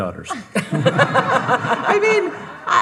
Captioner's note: audience laughing